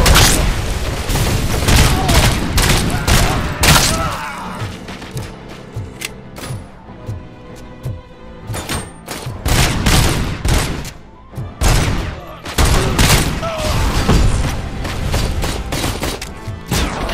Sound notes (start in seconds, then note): 0.0 criminal yells; 0.9 gun fires; 1.6 criminals scream; 6.3 metallic clacking; 9.0 guns fire; 12.6 criminal yells; 13.5 explosion; 14.7 gun fires